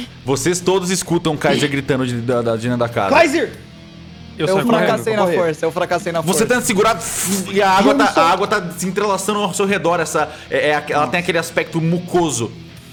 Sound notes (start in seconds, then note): 7.4 fshhhh